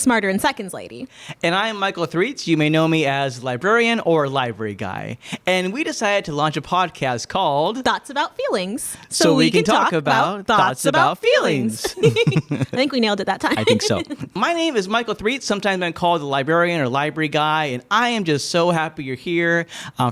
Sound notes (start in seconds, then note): 11.5 laughing